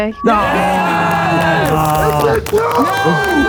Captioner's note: group cheers